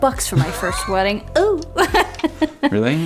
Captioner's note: chuckles